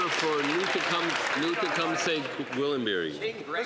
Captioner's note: some Applause